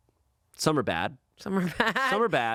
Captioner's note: laughing